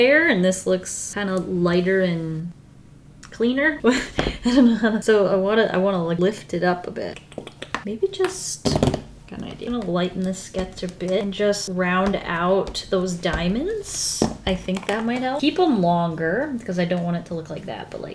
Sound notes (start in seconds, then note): 3.8 short laugh